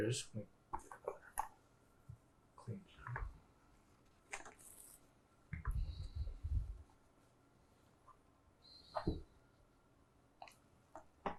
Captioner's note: pauses 12 seconds